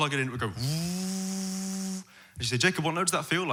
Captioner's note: vacuum sound